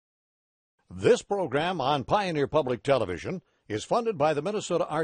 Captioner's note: voiceover